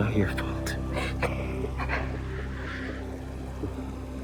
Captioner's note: sniffles